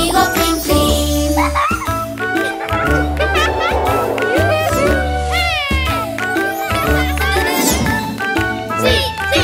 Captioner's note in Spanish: Risas